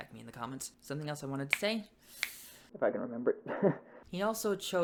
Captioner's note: if I can remember it--laughs